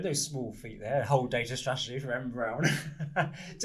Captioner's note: laughs